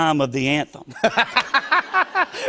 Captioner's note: laughter